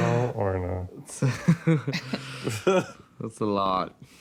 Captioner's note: nervous laughter